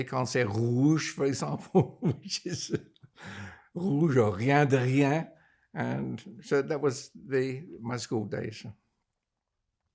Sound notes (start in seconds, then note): 1.8 laughing; 4.5 french